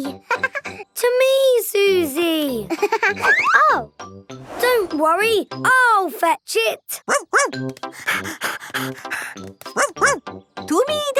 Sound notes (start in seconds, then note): 2.7 giggling; 7.1 panting